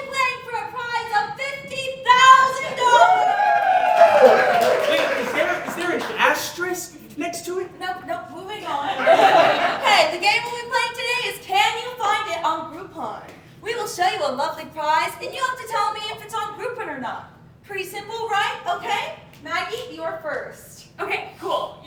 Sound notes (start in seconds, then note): 3.6 audience Cheering; 8.8 audience Laughing